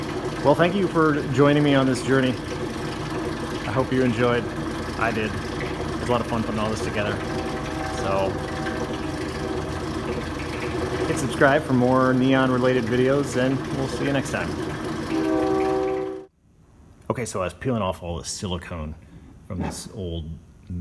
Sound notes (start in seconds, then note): 9.1 train horn in distance; 14.9 train horn closer